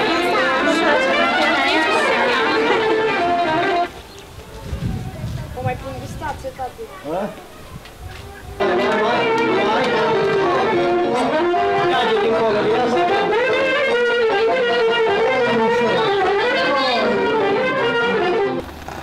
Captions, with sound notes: Do you like my dress? [FOREIGN DIALOGUE]